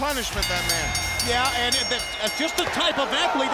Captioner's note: bell rings